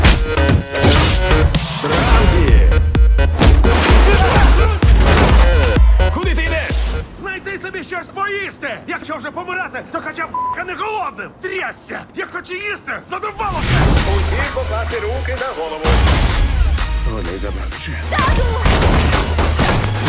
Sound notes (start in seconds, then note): 4.0 both groaning; 18.6 gunfire